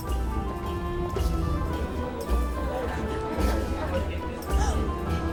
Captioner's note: indistinct chatter; gasps